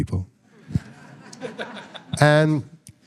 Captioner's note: all laughing